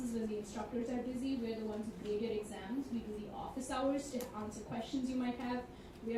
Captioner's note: none